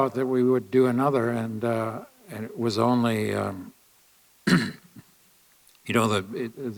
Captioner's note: clears throat